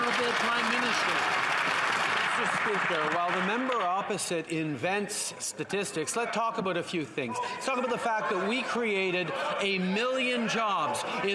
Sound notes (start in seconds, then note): 1.8 some Applause